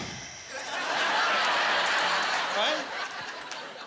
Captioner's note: laughing